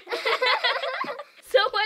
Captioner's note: laughing